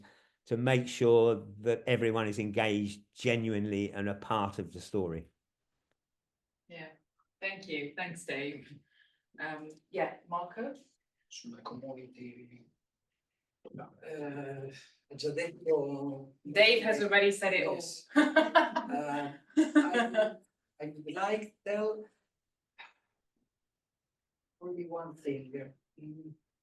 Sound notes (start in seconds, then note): 19.5 laughs